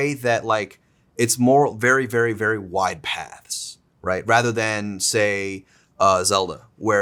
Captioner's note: none